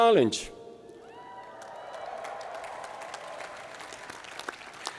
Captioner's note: crowd cheering